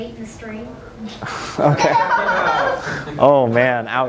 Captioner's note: laughter